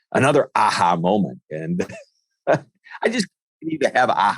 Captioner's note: laughs